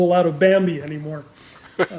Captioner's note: chuckling